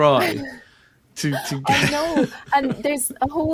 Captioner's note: laughing; laughs